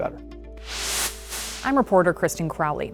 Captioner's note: air whooshes